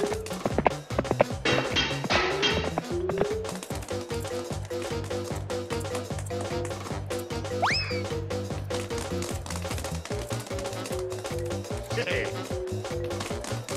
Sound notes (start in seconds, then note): 0.1 clattering; 12.1 chuckles